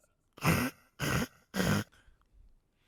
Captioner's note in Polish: hryy, hryy, hryy